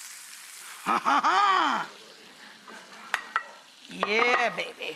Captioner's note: laughing